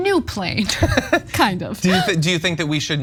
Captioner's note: laugh